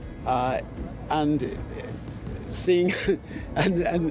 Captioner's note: chuckles